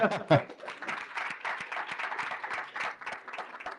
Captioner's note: laughter, applause